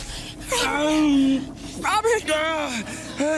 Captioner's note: Robert moaning intensely; Robert whimpering; Jen voice breaking